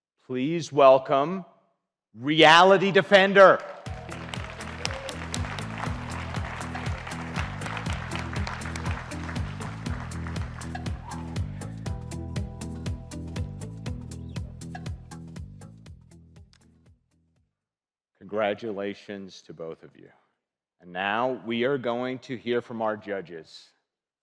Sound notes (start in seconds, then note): 3.2 audience applauding; 4.6 upbeat music